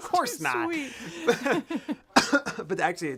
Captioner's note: laughter